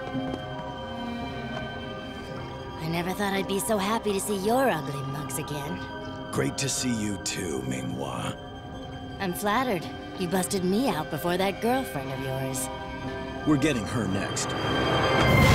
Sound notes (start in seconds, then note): none